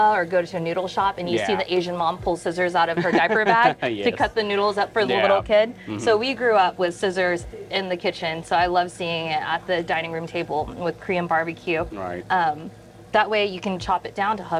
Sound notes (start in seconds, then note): 2.8 laughs